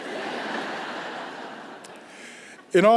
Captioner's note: laughter